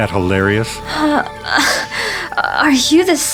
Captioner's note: Muse chuckles